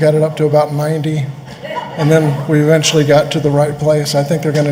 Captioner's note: laughter